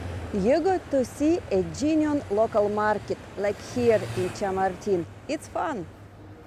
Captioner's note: street noise